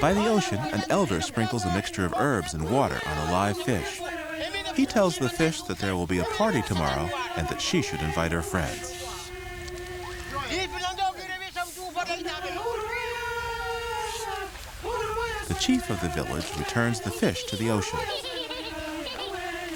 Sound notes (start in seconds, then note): 11.7 speaking in native language